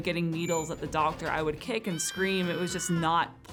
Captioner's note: kid screaming